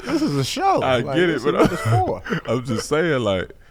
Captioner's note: laughs